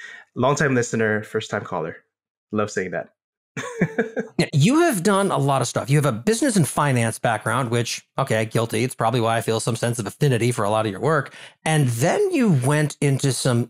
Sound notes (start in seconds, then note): 3.6 laugh